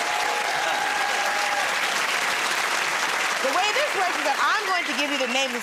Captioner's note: cheers and applause